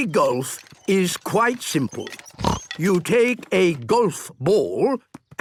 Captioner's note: snort